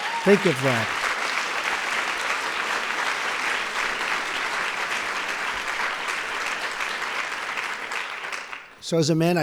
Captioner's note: applause